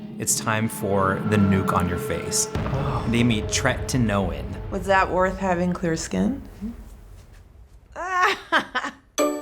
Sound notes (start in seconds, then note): 0.5 nuke explodes; 7.9 laughs